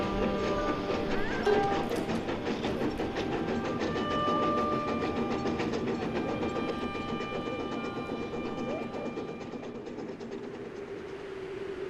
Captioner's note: sound of train on tracks